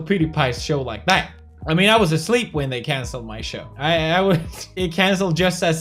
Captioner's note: laugh